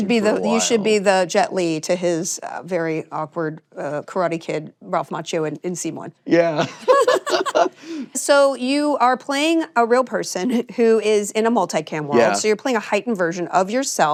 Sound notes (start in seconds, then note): 6.4 both laughing